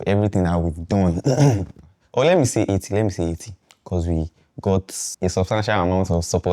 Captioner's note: clears throat